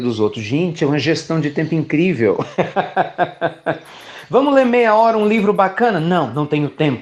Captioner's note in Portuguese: Risos